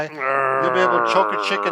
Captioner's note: grunts